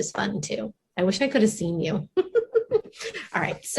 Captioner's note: laughs